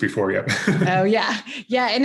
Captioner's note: both chuckle